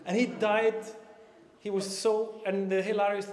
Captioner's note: none